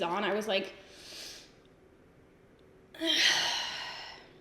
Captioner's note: sharp inhale; sighs